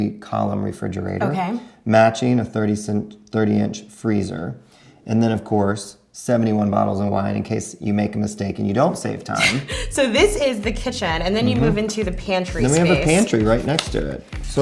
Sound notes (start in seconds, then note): 9.3 chuckles